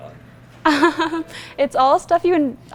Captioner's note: laughs